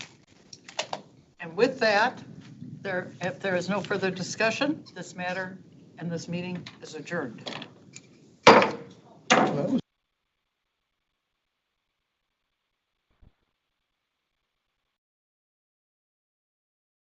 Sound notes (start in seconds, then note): 8.4 gavel banging